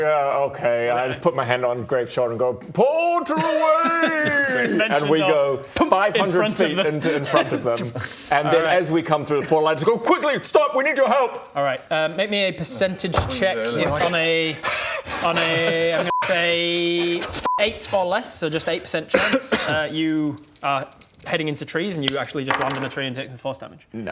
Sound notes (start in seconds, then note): 14.5 unfit wheezing